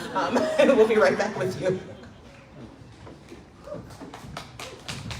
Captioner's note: crowd clapps